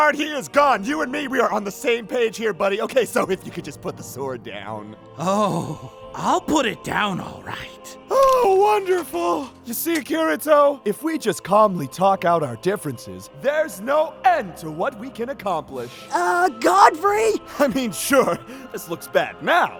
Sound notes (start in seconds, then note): 2.7 laughing nervously; 17.7 laughing